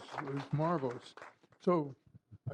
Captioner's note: applause